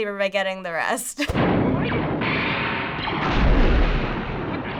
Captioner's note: lasers firing